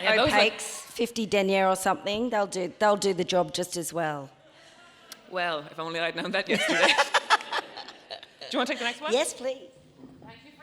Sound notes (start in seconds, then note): 6.5 Myf laughing